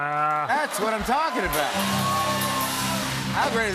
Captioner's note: cheers and applause